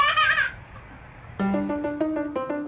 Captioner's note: laughing